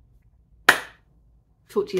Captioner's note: clap